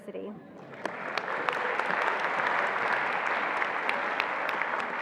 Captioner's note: attendees applauding